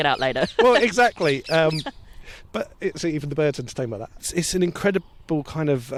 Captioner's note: birds chirp